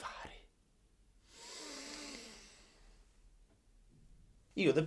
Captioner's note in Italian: respiro di panico